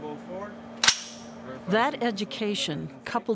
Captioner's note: gun cocking